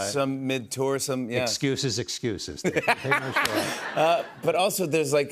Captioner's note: laughs